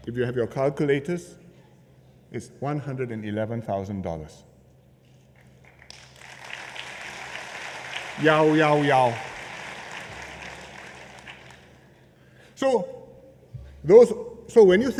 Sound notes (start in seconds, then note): 5.6 applause